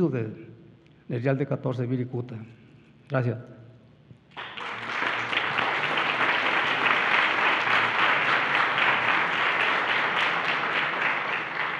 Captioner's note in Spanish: Aplausos